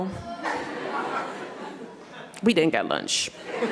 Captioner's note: audience laughing